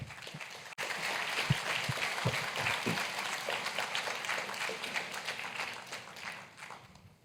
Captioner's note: applause